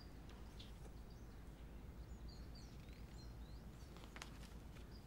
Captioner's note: birds chirping sound